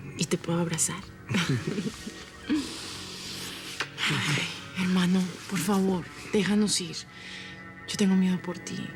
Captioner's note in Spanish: Risas